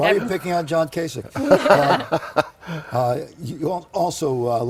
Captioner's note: laughter